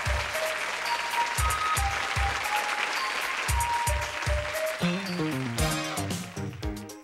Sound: applause

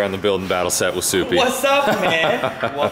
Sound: laughs

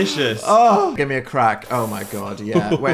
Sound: moans

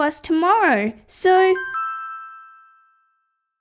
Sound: ding!

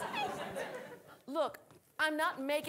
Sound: audience laughing

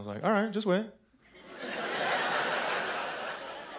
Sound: laughter

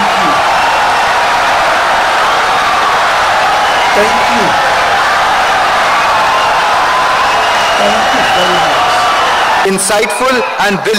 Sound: wild applause and cheering for 17 seconds

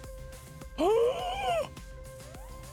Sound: gasp of the ages

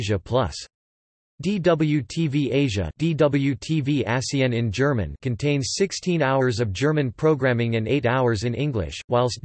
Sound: DW-TV Asien in German

